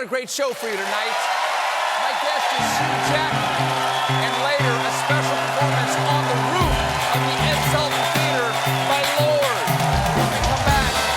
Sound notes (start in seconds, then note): 4.3 cheers and applause